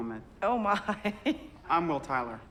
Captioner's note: laughs